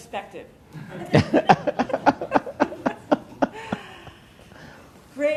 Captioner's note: laughter